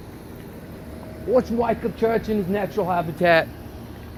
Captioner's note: in an Australian accent